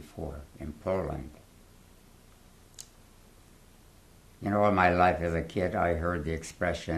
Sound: pauses for 3 seconds

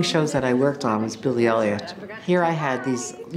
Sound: narrating

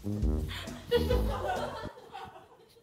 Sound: laughing

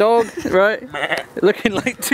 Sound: bleating

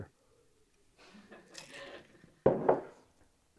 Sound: laughing

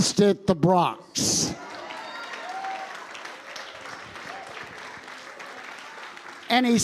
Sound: congregation applauding

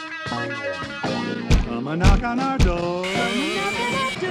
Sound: knock

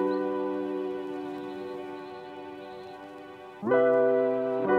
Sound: warm, upbeat, Introduction music plays; sounds of birds in the distance

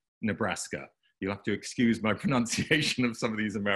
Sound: laughing

